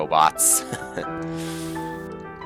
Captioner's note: laughs